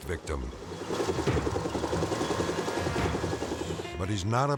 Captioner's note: helicopter whirring